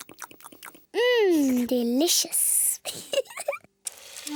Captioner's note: giggles